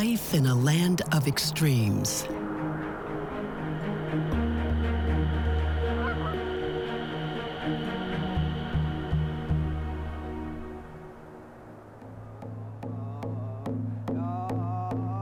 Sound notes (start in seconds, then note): 2.4 gusty wind blowing; 5.8 geese calling; 11.0 drumming and singing